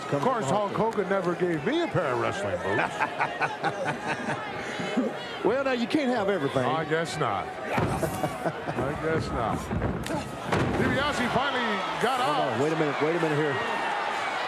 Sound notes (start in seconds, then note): 3.7 hillbilly laughing